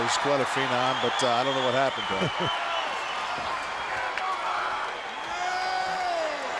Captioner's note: Hogan laughs